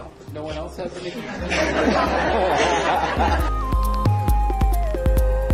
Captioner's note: laugh